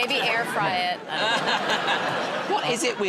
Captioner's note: laughter